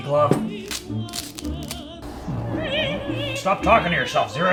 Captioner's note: mumbles to himself